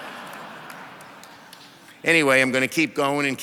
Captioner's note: audience laughs